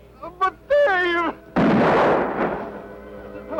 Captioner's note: gunshot